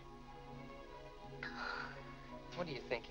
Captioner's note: Mary sighs